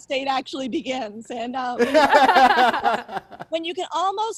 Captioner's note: laughing